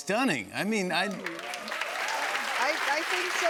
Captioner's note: cheers and applause